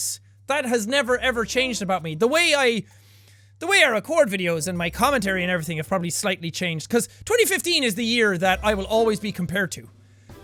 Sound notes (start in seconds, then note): none